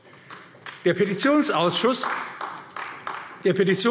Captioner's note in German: Beifall AfD